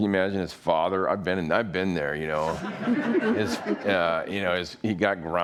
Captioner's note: all laughing